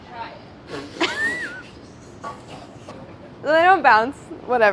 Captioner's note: laughing